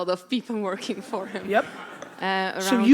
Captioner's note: audience laughter